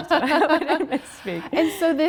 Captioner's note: laughing